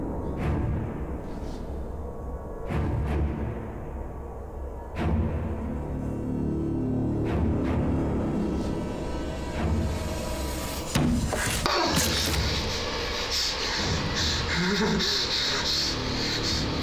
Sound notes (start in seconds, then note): 14.4 Griffin laughing